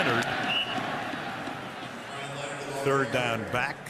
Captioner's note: whistle blowing; stadium announcements